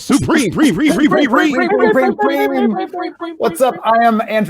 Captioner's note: all echoing